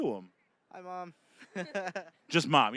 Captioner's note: laughing